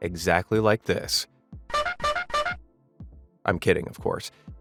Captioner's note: horns honking